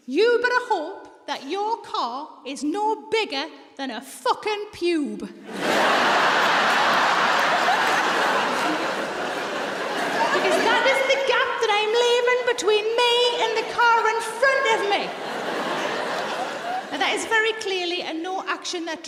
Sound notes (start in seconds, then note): 5.4 audience laughs